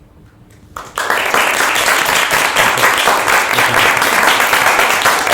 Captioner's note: applause